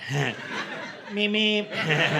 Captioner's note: laughter